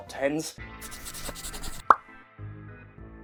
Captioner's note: pencil scratching